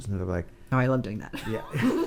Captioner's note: laughing